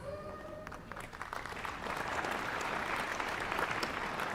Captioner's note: applause